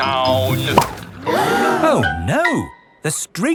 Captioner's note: all gasp